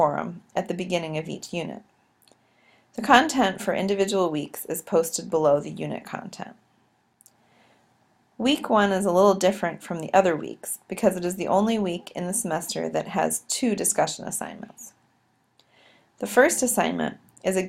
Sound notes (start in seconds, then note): 7.2 click